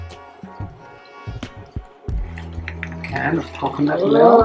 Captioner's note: coconut milk drips